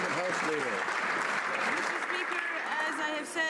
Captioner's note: some Applause